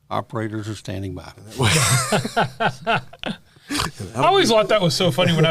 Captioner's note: laughter